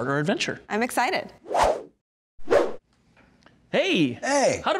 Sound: whooshing

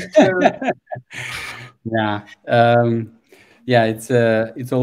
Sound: laughs

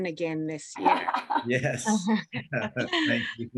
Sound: laughter

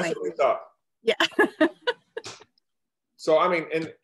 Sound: laughs

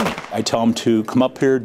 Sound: nat Pop of gun shots

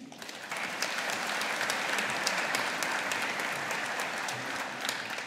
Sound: audience applauding

